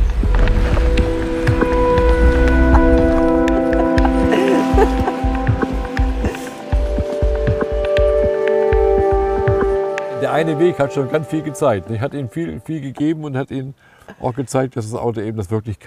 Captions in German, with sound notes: (Lachen) Der eine Weg hat schon ganz viel gezeigt. Der hat Ihnen viel gegeben und gezeigt, dass das Auto das kann.